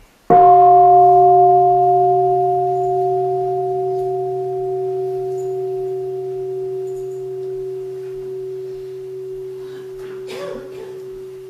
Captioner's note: gong